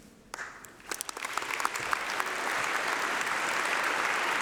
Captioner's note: applause